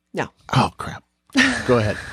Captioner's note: chuckles